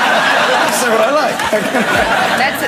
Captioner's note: audience continues laughing; audience laughing